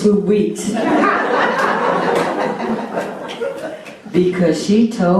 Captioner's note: laughter